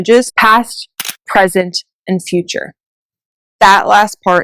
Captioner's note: camera shutter clicks